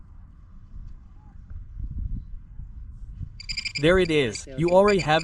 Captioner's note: beeping